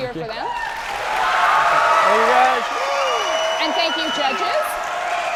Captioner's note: audience applauding